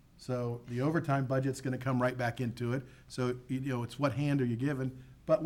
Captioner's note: none